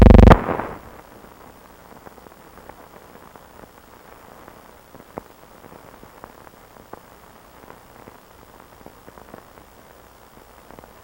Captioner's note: silent